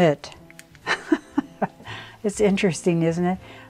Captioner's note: laughs